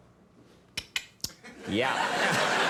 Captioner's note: Steve clicks; audience laughing